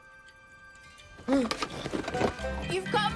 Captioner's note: gasps